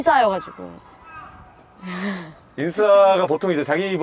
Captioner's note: crow croaking at an amazing timing